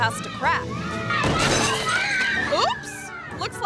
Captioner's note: table cracks